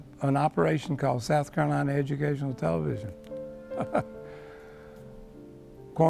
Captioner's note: giggles